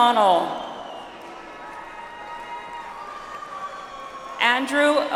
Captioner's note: audience applauds